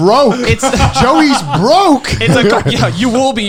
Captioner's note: laughing